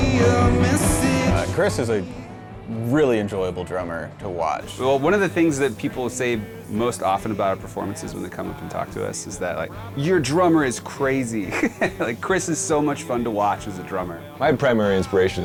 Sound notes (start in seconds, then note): 12.5 laughs